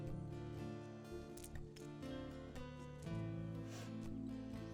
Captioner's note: stones clack